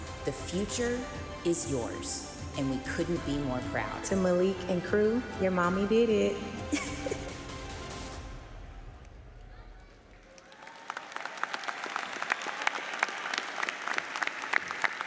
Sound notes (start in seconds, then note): 6.6 laughs; 7.5 bright music; 9.8 audience applauds